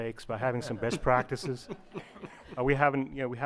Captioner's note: members laugh